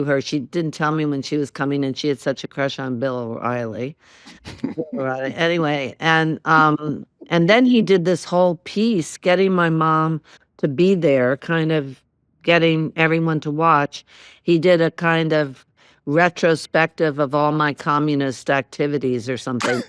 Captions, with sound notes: She didn't tell me when she was coming, and she had such a crush on Bill O'Reilly. (CHUCKLES) Anyway, and then he did this whole piece, getting my mom to be there, kind of getting everyone to watch. He did a kind of retrospective of all my communist activities or something.